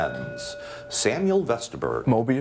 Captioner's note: bell ringing